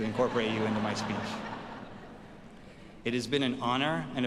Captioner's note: audience laughs